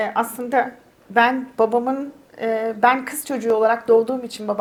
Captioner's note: speaks in Turkish